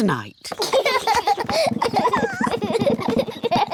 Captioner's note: children laugh